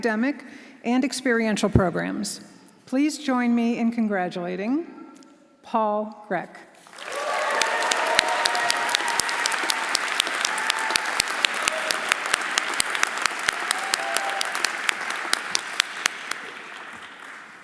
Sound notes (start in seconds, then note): 6.8 audience applauding; 6.9 audience cheering